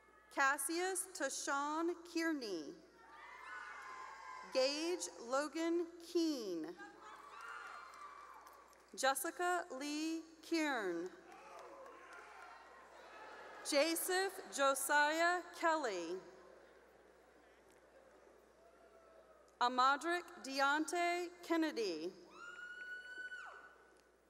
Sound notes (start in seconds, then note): 0.0 cheering; 3.0 cheering; 7.3 cheering; 12.0 cheering; 17.5 cheering; 22.2 cheering